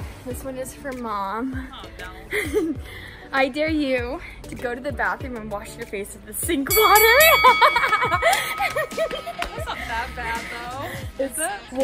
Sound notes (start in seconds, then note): 6.7 bell dings; 9.0 laughing